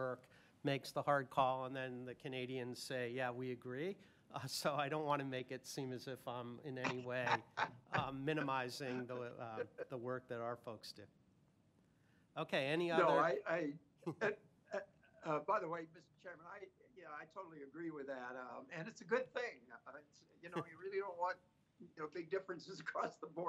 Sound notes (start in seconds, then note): 9.0 laughter